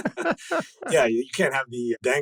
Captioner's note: laughing